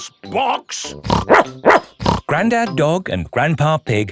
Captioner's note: snorts; barks